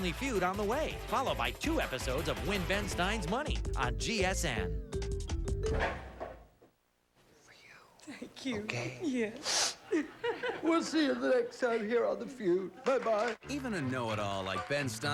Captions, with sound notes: [WHISPERS] For you. THANK YOU. YOU OK? YES. [SOBBING] WE'LL SEE YOU NEXT TIME HERE ON THE FEUD. BYE-BYE.